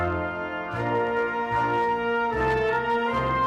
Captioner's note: none